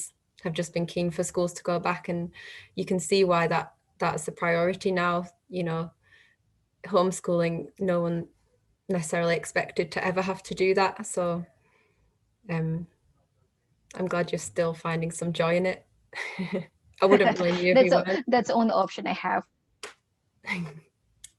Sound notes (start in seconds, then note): 17.0 laughs